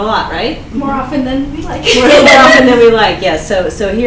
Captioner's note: laughs